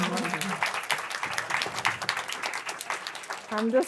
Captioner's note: applause